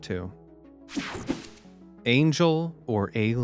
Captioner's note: screen buzzing